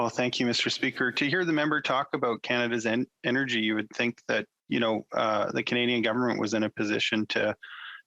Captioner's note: speaking in French